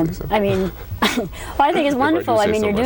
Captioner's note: laughter